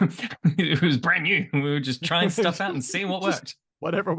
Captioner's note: laughs